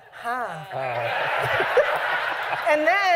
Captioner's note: laughter